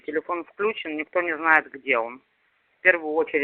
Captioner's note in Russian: говорят по-русски